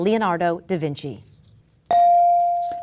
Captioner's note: bell dinging